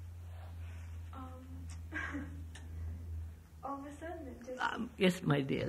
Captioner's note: laughs